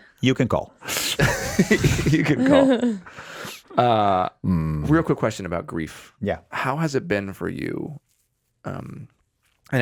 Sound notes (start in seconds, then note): 1.2 Justin laughing